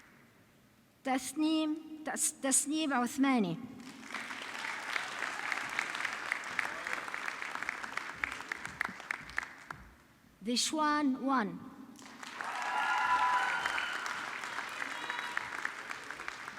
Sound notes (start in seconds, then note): 3.8 audience clapping; 12.0 audience clapping